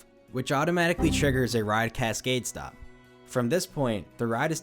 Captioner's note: Windows error sound